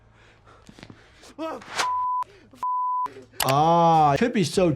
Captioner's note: beep; gasps